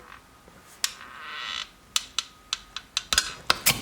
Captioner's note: creaking